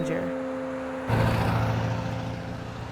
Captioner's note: traffic rumbles